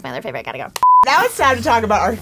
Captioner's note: beep